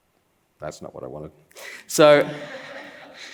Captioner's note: laughs